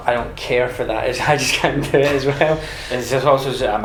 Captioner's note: both laugh